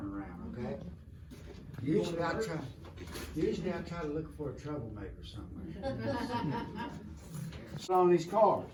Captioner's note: laughing